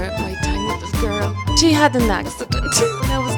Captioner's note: laughs